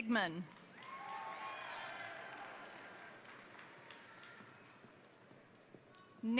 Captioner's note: crowd applauding; crowd cheering